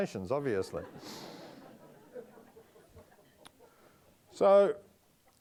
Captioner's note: audience laughing